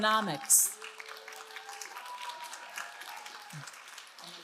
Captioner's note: all applauding